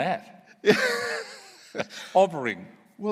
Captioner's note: laughs